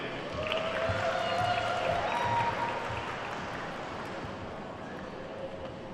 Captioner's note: attendees whooping and clapping